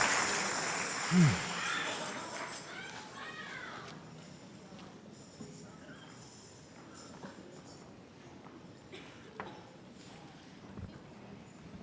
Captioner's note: applause and cheers